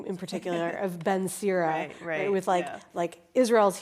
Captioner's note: laughs